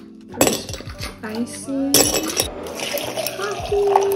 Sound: ice cubes clinking; coffee pouring

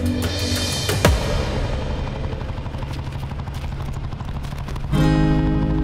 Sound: bike vrooming in distance

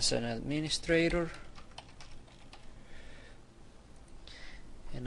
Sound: typing

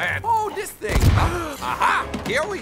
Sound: boom!

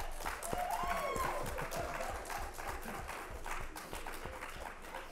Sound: audience applauds

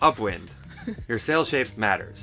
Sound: laughs

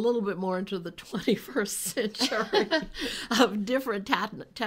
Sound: laughing

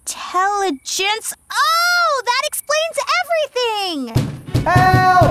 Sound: banging

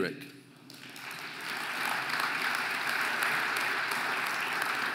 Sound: audience applauding

